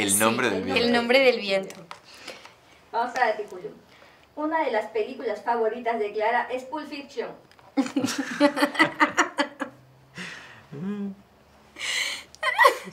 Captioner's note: laughter